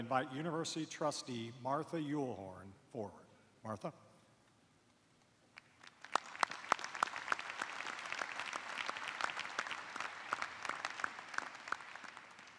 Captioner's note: applause